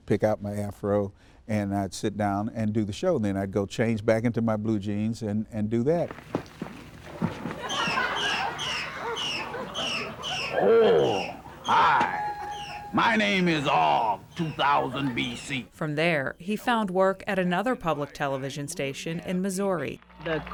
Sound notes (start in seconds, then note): 6.2 bushes rustling; 6.8 audience laughing; 7.6 monkey chattering